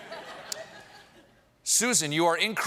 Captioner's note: laughter